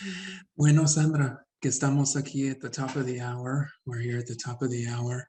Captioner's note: speaks Spanish